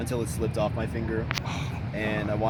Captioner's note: exhales